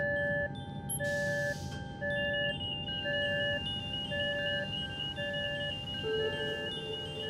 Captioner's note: alarm sounding